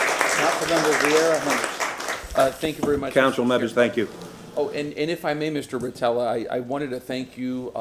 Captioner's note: applause